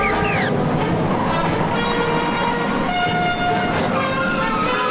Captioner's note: car engine revving; tires screeching